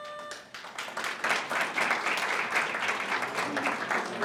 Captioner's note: audience applauds